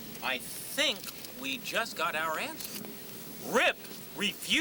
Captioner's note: none